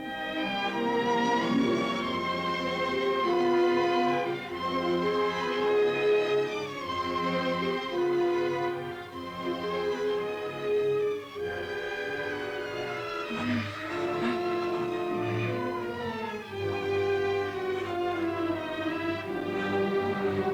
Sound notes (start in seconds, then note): 13.3 Cleo moans; 15.8 romantic orchestral music continues